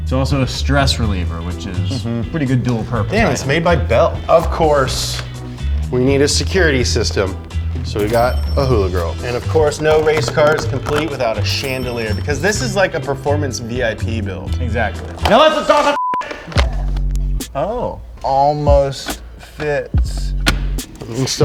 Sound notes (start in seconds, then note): 15.8 beep